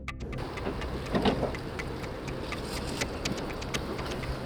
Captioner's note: wind blowing